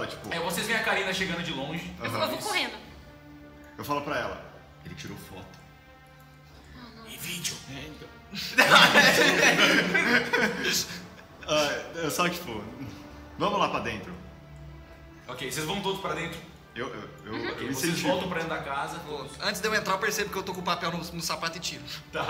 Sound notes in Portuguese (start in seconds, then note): 8.3 Risadas